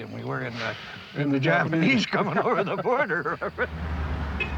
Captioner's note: both laughing